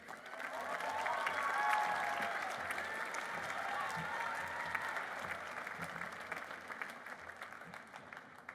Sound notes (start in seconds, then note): 0.0 applause